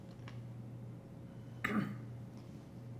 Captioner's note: clears throat